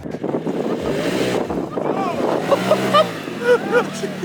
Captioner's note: engine revving